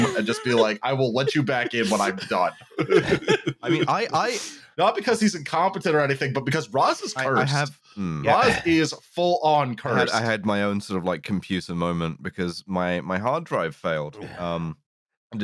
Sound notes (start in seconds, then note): 1.0 laughter